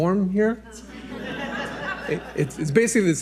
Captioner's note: audience laughs